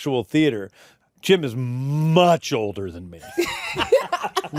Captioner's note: laughter